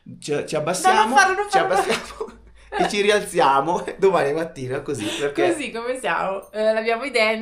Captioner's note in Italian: risate